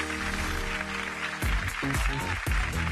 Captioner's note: clapping